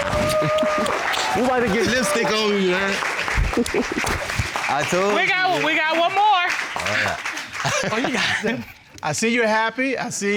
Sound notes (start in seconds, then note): 3.4 both chuckle; 6.6 laughs